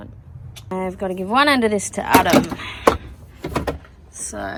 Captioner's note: loud thunking of heavy cable onto metal